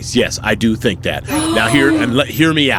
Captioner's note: gasps